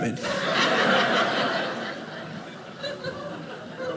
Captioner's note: audience laughing